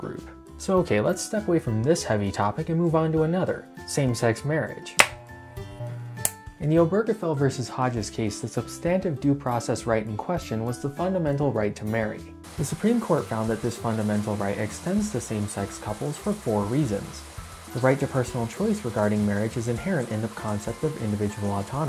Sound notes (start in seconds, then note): 5.0 trimmer buzzing; 11.8 shower noises